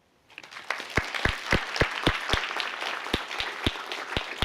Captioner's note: applause